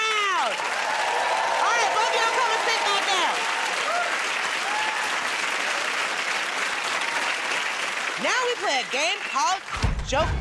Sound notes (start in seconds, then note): 0.3 cheering and applause; 4.4 applause